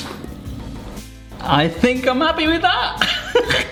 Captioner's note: laughs